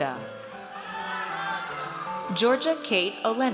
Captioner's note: audience cheers